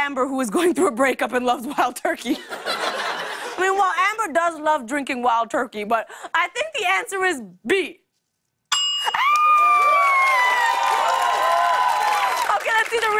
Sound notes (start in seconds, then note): 2.3 laughter; 8.7 ding!; 9.1 cheers and applause